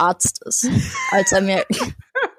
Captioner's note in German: Lachen